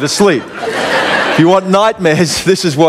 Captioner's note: laughter